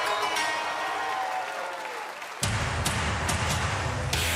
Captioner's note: cheers and applause